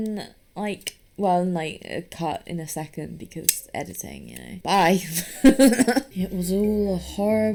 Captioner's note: cackles